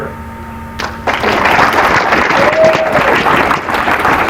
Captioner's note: applause